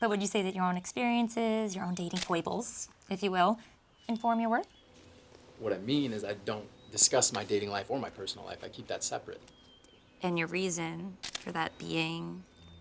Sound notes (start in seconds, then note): none